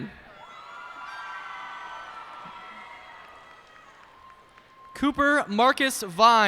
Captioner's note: cheers and applause